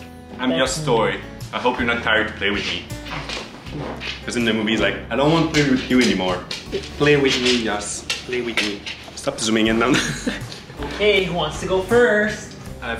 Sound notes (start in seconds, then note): 9.8 laughs